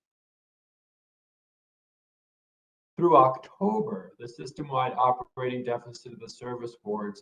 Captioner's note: A pause